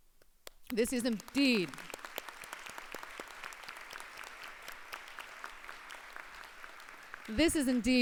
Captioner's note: applause